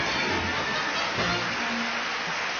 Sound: applause on video

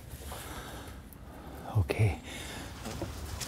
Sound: quietly

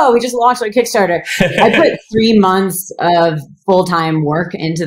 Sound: laughs

